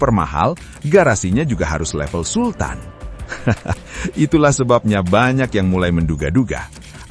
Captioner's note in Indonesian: tertawa